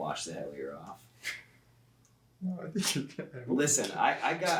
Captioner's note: chuckles uncomfortably